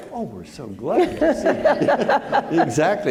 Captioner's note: all laughing